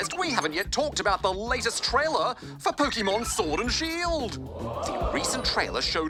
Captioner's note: audience: oooh!